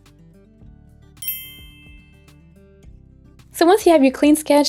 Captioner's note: dinging sound effect